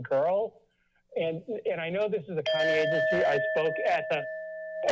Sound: bell chimes

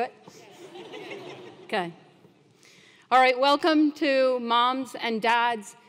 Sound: laugh

